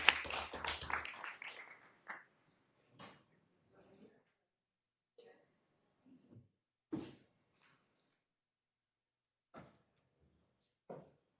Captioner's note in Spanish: aplausos